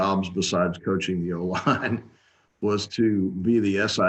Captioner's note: chuckles